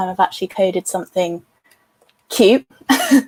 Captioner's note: laughs